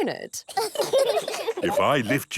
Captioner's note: children laugh